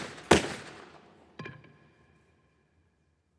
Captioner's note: two gun shots; thuds